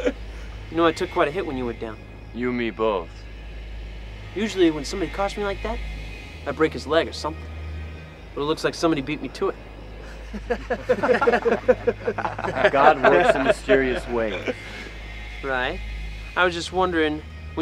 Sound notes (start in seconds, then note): 10.0 men laughing